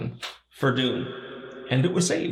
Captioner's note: echo